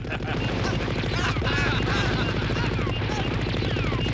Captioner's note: both laugh; laughing continues; exclaiming